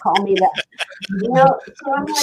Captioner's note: laughs